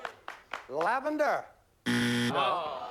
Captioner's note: buzzer